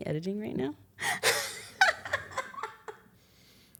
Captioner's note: laughs